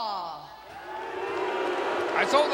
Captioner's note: crowd booing